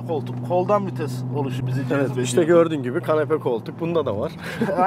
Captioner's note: laughing